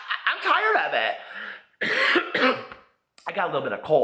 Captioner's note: coughs